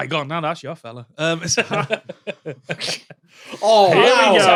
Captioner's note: group giggling